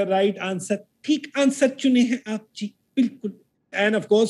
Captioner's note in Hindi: राज कपूर की नकल करते हुए